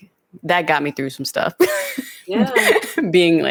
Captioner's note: laughs